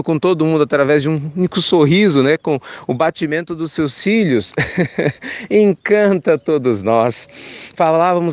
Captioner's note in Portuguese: risos